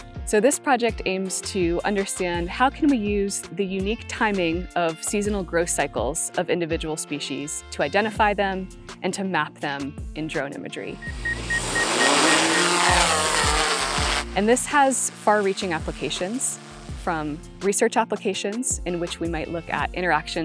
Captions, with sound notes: So this project aims to understand how can we use the unique timing of seasonal growth cycles of individual species to identify them and to map them in drone imagery. (drone whirring) And this has far reaching applications from research applications in which we might look at interactions